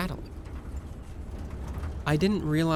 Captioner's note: glass Rattling